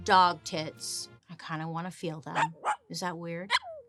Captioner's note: dog barking